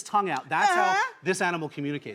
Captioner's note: moans